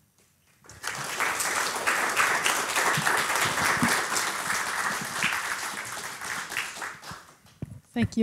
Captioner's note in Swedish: applause